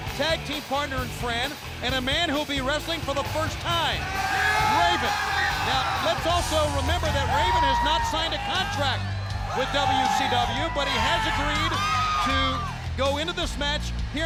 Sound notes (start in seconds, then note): 3.6 crowd cheering